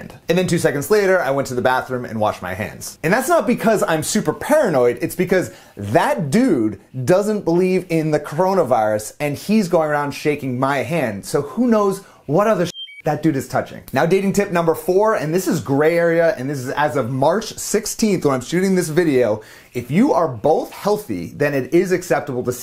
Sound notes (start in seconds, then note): 12.6 beep